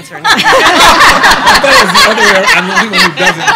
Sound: laughing

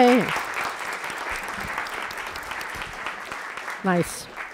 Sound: applause

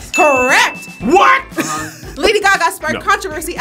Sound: laughs

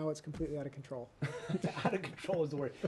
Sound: laughter

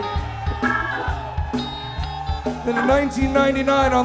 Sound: crowd cheering

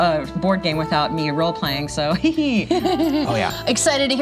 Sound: chuckles

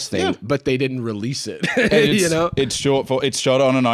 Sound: laughs

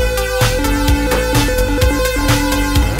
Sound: upbeat music; rings beep; upbeat music

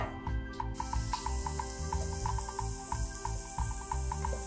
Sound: mushrooms sizzling

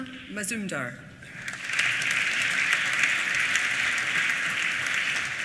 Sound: applause

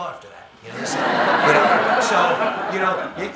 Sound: audience laughing

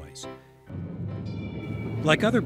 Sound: traffic humming; bell rings

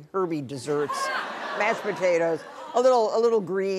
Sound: audience laughing

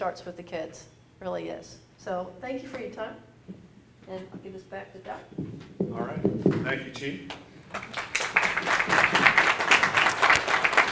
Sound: applause

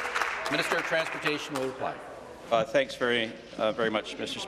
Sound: some applause

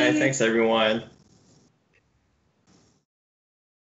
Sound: silence

